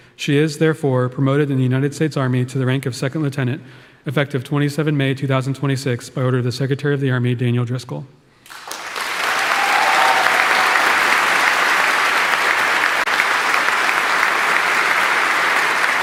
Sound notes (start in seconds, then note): 8.5 audience cheering; 8.7 audience applauding